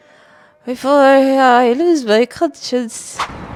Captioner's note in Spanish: murmuró